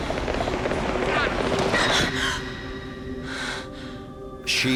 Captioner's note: gasping